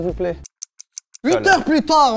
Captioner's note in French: tic-tac